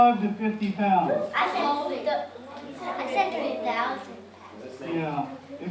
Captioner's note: children chattering